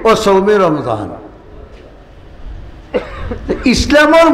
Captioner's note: Arabic